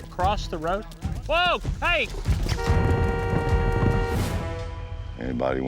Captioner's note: car horn